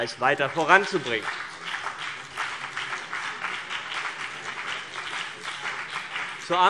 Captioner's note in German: Beifall BÜNDNIS 90/DIE GRÜNEN und vereinzelt CDU